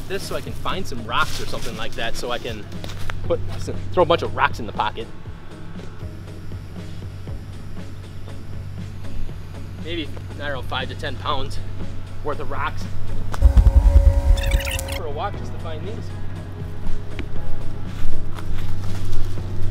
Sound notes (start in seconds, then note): 13.4 audio fast-forwarding